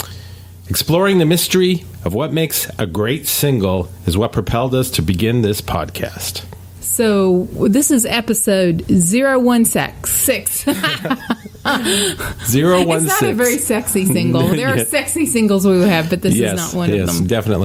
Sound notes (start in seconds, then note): 10.6 laughs